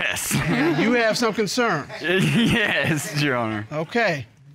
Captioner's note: chuckles